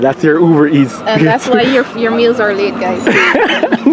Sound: laughing

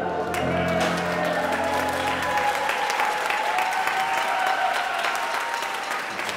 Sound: cheers

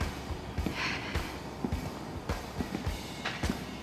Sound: sighs

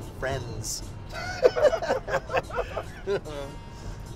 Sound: laughing

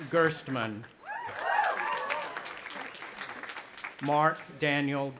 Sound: audience applauding and cheering

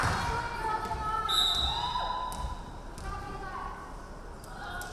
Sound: referee whistling

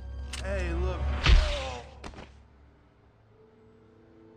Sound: none

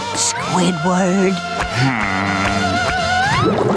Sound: groaning

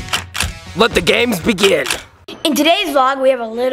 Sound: camera shutter click

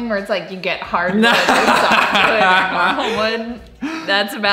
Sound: speech drowned out by laughter

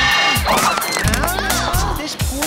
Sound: screech

